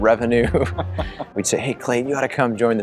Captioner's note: laughing